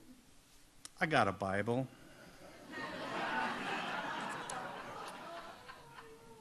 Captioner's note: audience laughs